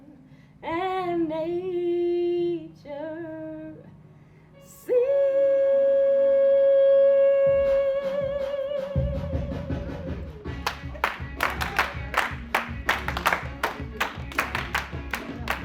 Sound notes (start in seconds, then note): 10.5 cast rhythmically clapping